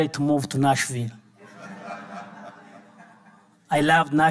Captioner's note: audience laughing